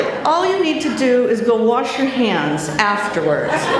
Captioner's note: laughter